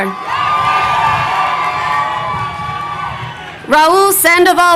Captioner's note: crowd cheering